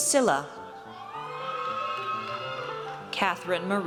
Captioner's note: audience cheers